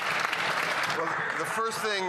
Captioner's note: cheering and Applause